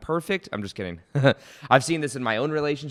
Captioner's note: chuckles